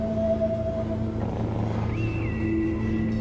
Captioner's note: none